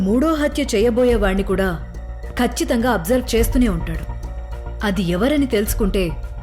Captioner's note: none